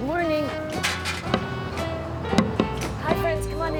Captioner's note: chair clatters; sign thumps